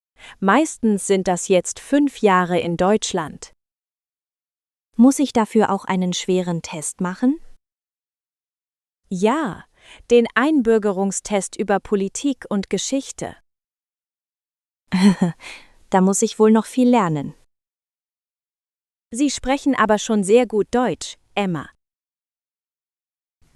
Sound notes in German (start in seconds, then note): 14.9 laughs